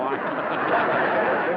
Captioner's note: laughter